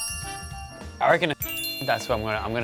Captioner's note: chime effect